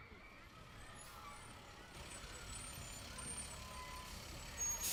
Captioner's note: sound of bus pulling in to school